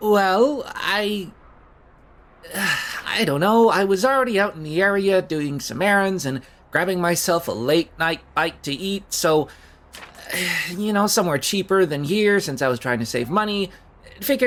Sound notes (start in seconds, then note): 2.4 sigh